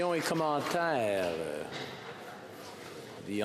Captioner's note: speaking French